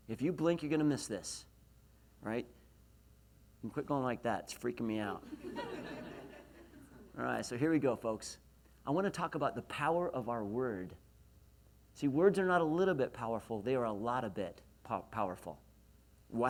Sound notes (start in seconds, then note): 5.3 laughs